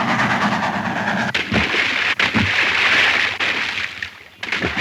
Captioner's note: water splashing